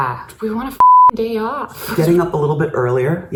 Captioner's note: beep